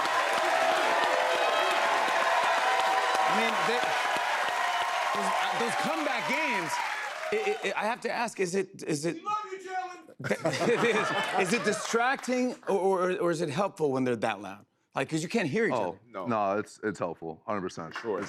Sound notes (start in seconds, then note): 10.2 laughter